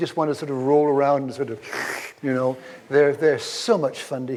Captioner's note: slurps